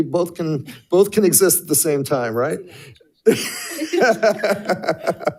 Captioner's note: laughs